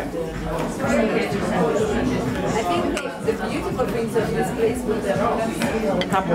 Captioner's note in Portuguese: ambiência de restaurante